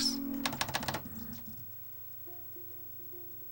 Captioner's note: laser seeky noises